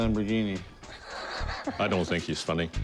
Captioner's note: laughs